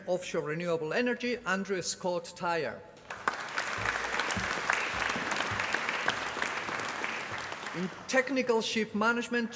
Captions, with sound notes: Offshore renewable energy. Andrew Scott Tyre. [APPLAUSE] In technical ship management.